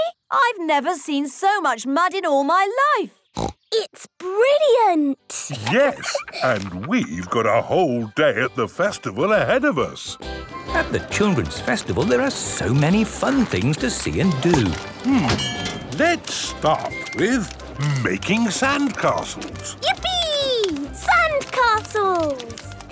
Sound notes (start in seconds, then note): 5.4 laughs; 10.2 festival buzz and music